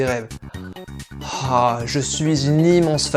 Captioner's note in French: Soupir